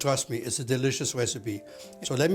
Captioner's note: none